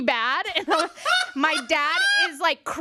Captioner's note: laughs